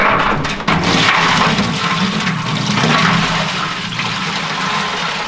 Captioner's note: water gushing